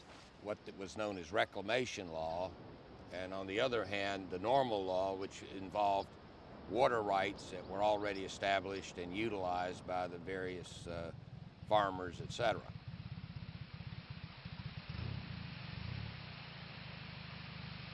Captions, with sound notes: as reclamation law and on the other hand the normal law which involved water rights that were already established and utilized by the various farmers, et cetera. (water spraying)